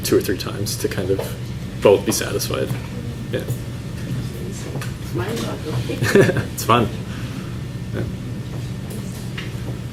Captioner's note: laughs